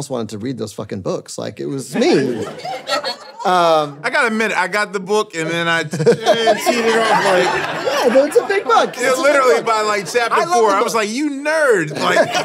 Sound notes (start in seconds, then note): 5.8 audience laughing